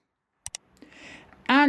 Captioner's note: click sound